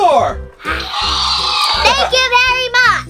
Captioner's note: dinosaur roar